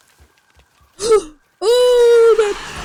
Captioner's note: gasp